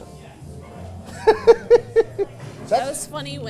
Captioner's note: Santa laughing